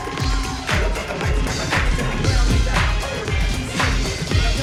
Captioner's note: audience cheering; upbeat music